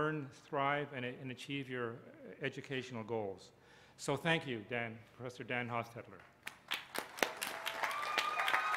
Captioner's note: applause